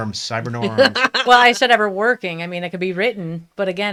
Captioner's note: laughs